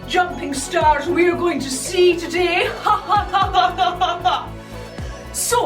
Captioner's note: laughing